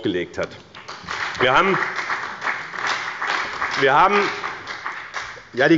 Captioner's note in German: Beifall bei dem BÜNDNIS 90/ DIE GRÜNEN und der CDU